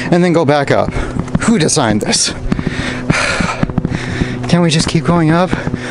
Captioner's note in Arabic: يتنفس بصعوبة